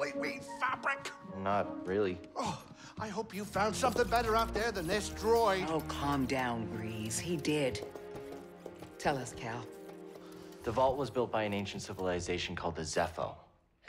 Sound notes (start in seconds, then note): 2.4 frustrated sigh